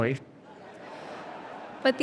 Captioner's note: audience laughing